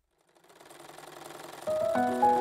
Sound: sewing machine

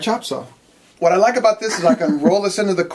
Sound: chuckle

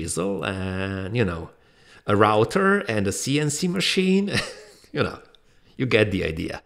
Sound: laughs softly

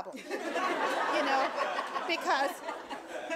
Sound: audience laughing

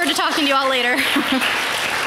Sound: chuckle; applause

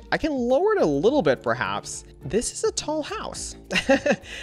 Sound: laughs

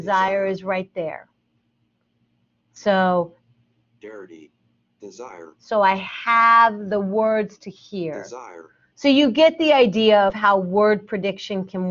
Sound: computer speaks dirty, desire

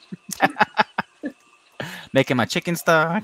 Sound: both laughing

